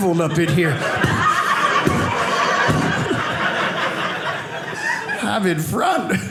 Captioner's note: smacking sounds